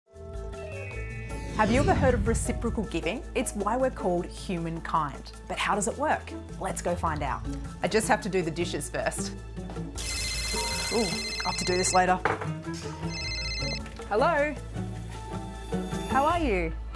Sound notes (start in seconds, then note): 9.9 phone rings